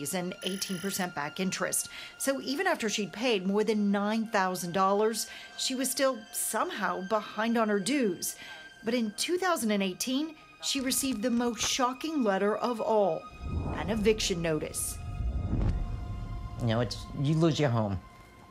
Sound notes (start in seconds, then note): none